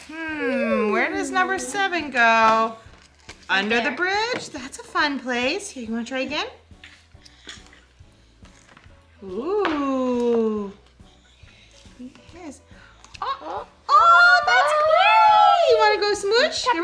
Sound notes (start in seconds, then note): 7.4 soft music; 13.8 exclaiming